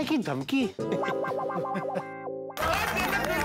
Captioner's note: chuckles; applause